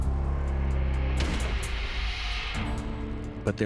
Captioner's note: gun fires